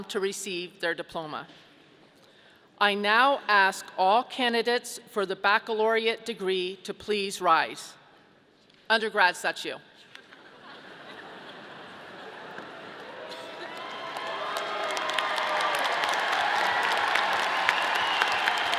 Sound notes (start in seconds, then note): 10.4 audience laughing; 12.9 audience cheering